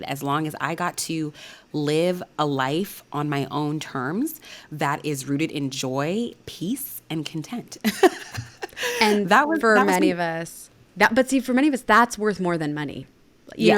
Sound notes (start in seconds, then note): 7.9 laughing